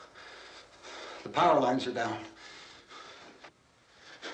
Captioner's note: panting